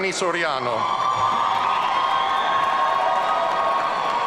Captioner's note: audience cheering